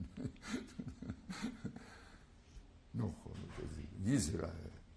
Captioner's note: laugh